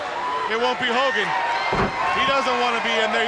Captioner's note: crowd cheering; body slamming